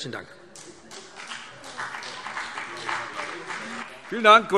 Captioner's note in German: Beifall BÜNDNIS 90/DIE GRÜNEN und vereinzelt CDU